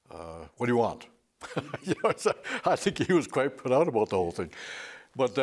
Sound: he laughs

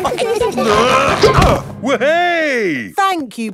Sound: all giggling; grunting

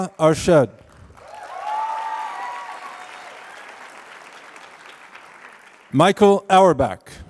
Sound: applause

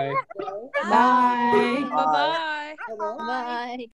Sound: offscreen Voices

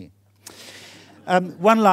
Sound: audience laughing

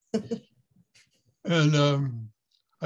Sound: laughs

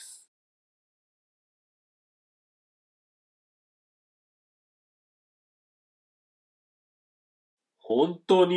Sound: silence

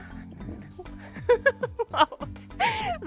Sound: laughs

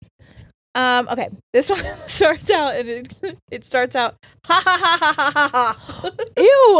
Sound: laughs

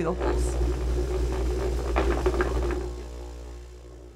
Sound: machine vibrating

